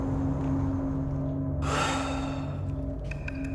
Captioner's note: sighs; suspenseful music